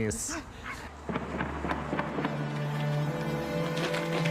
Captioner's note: gunfire